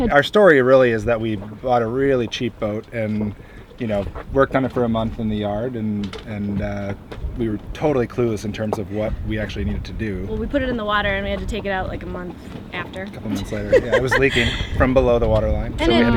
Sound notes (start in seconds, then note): 13.3 laughs